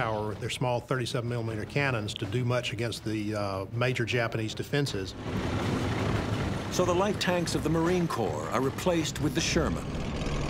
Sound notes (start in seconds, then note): 5.2 tank rumbling; 10.3 tank rumbling